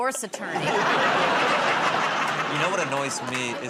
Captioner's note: laughter